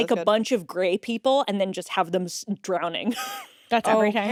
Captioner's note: laughs